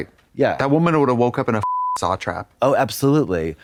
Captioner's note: beep